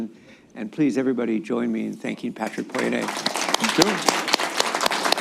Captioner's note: applause